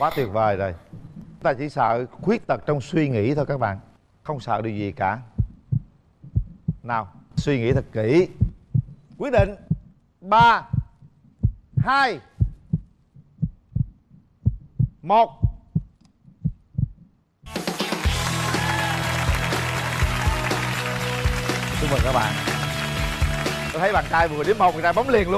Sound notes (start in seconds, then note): 17.5 clap